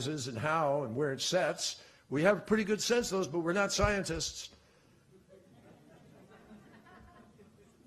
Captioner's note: laughter